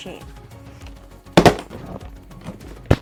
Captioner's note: clunk